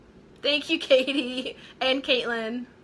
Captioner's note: laughing